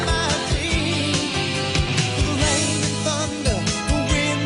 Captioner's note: none